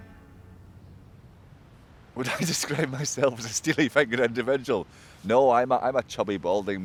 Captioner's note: laughs